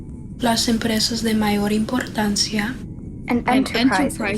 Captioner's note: speaking in foreign language